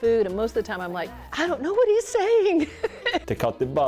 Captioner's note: laughs